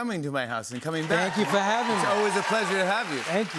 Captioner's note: cheers and applause